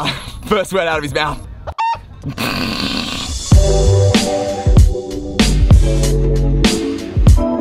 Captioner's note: calm electronic music; chicken cluck; laughing